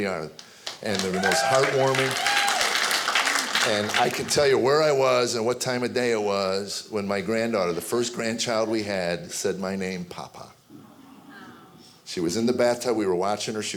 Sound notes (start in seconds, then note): 0.6 audience applauding; 2.3 audience cheering